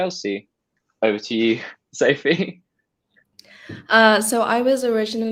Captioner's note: laughs